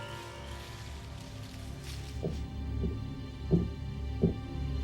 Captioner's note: footsteps thudding